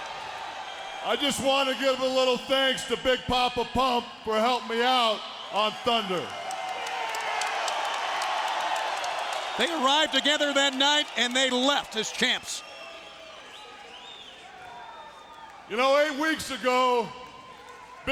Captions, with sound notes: I just want to give a little thanks to Big Poppa Pump for helping me out on Thunder. (audience cheering) They arrived together that night and they left as champs. You know, eight weeks ago,